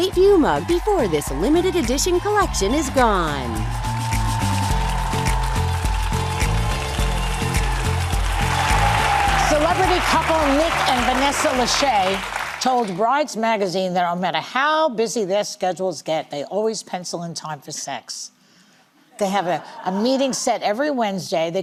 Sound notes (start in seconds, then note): 3.7 cheers and applause